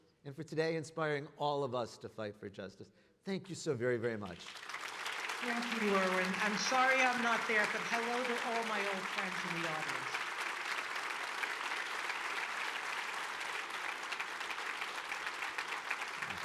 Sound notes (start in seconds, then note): 5.4 audience clapping; 11.1 audience clapping